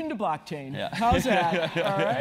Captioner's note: laugh